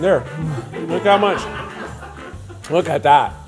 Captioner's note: crew laughing